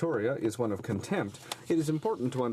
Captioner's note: speaking french